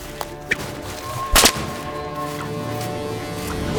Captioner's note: whip cracking